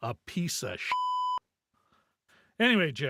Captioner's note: beep